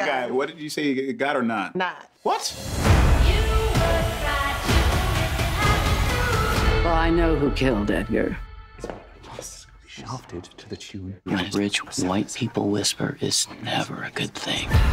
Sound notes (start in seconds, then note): 9.5 whispering